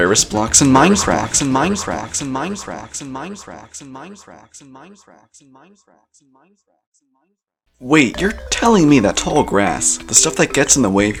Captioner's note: "rarest blocks in Minecraft" echoes